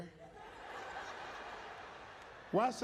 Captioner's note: audience laughing